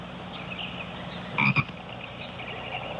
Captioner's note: frog croaking